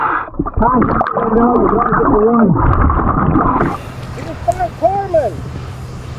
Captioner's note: faintly speaking